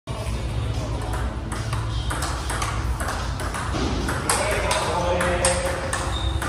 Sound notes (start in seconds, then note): 1.1 ball tapping rapidly